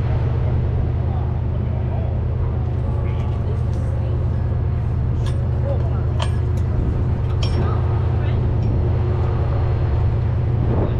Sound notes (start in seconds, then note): 4.2 people chattering; 4.2 vehicles humming